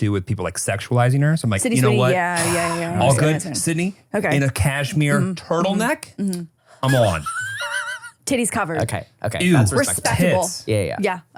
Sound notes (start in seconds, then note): 6.8 laughs